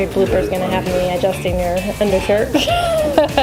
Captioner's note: laughs